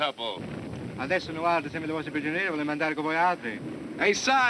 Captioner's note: speaking italian